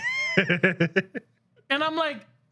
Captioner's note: laughing